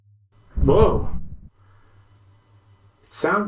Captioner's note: rumble!